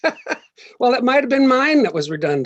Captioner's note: laughs